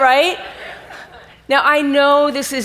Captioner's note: audience laughs